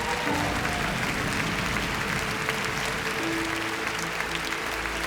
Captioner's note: audience applauds